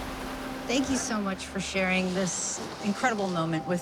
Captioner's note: waves crashing